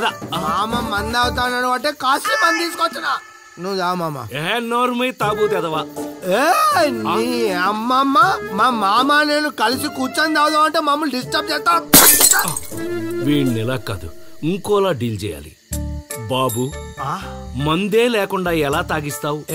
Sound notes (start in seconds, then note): 11.9 bottle smashed